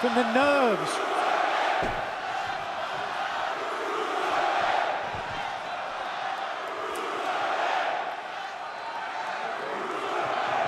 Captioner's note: crowd cheering